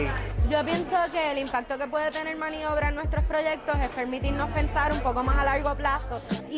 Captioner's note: speaks in foreign language